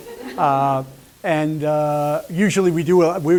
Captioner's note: laughter